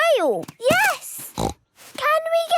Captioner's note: snorts